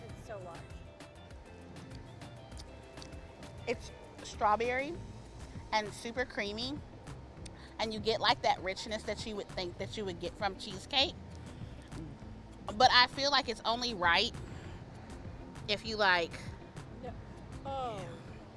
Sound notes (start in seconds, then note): 2.5 smacks lips